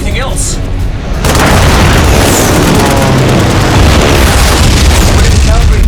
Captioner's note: planes flying; explosions/gunfire